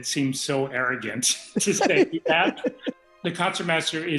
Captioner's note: laughter